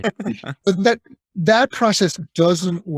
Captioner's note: laughing